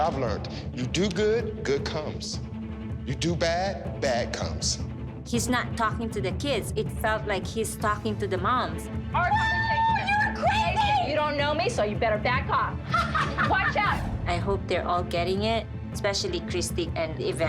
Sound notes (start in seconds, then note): 12.8 laughs